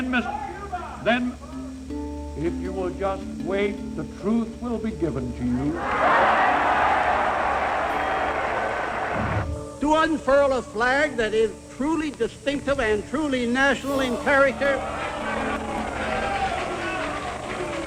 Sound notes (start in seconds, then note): 8.6 crowd roars; 16.8 crowd jeering